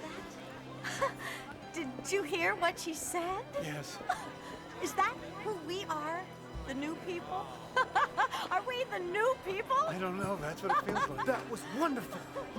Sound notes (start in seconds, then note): 0.8 chuckles; 7.6 laughs